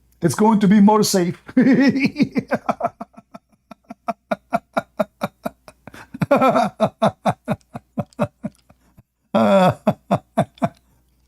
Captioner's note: Ketawa